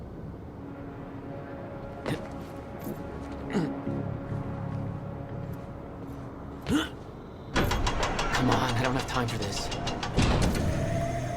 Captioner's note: on the radio